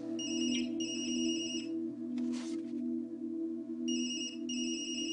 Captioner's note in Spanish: Suena el celular